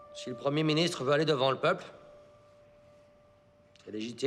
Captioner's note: Rene speaks in French